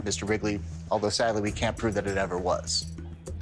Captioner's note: none